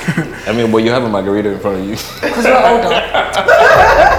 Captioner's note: chuckles